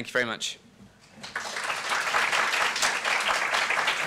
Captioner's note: applause